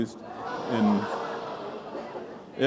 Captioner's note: laughter